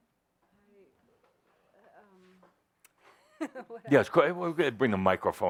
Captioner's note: she giggles